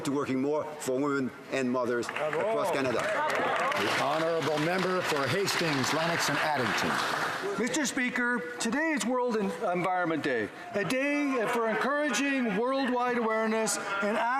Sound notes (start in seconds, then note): 6.3 some Applause